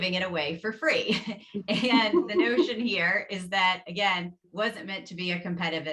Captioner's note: laughs